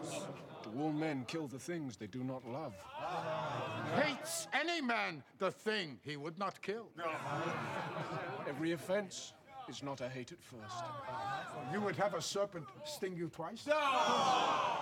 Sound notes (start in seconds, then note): 7.1 laughter